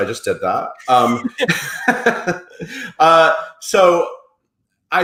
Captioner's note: laughing